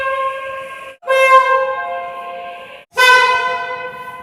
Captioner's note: air Horn